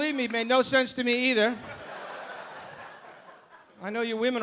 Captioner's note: audience laughing